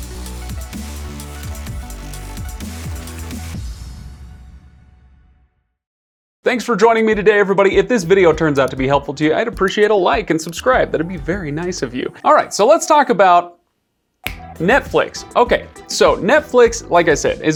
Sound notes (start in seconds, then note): 0.0 lively electronic music; 14.2 fingers snapping; 14.2 upbeat synth music